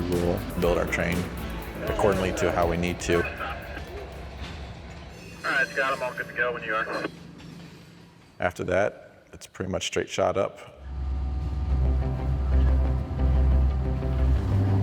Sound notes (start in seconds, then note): 7.6 train rumbling